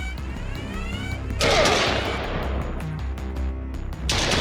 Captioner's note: gun blasts; man grunts; gun blasts